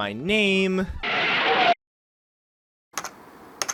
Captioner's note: cartoon car screeching to halt